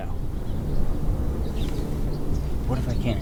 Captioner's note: birds chirping